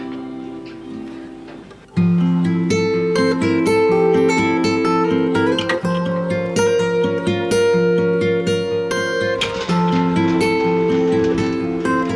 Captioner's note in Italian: Applauso